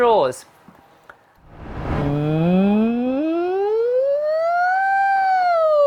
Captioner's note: hums up and down the full range